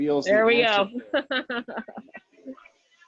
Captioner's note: chuckles